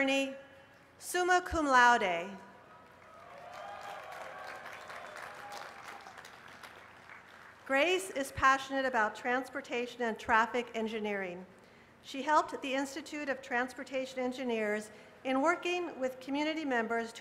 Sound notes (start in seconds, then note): 0.0 applause; 2.8 cheers and applause